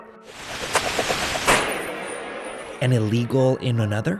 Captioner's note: machine-gun fire